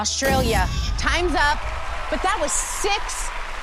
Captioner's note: whoosh